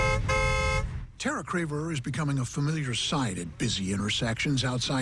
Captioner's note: horn blowing